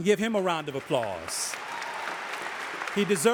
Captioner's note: audience applauding